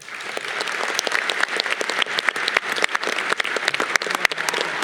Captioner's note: audience applause